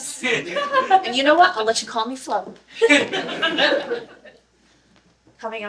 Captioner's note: audience: "This guy.", laughter; awkward laughter; laughter